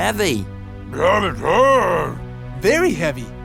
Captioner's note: Blok mumbling